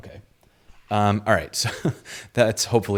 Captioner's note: chuckles